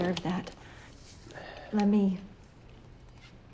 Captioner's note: exhales